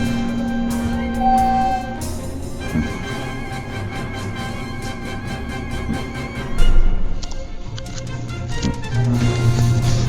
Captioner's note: elevator dings then opens